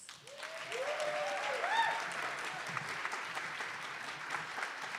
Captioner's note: attendees applauding